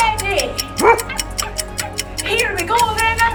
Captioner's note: dog barking